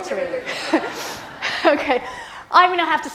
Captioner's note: students laugh